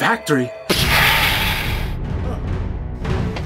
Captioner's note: pshaaa!